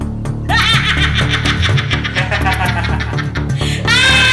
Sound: both laughing

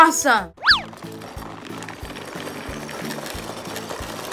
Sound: engine-like noises

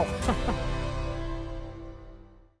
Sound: chuckling

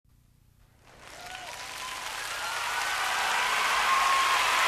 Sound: audience applauds

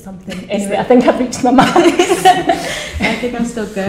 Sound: laughter

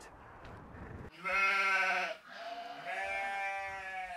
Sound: sheep baa

